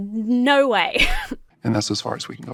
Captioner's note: laughs incredulously